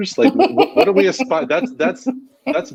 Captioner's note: laughing